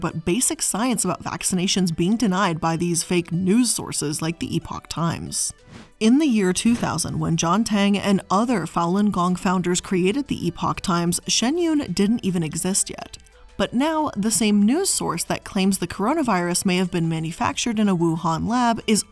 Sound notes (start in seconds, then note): 5.6 air whooshing